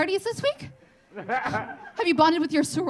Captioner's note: audience laughing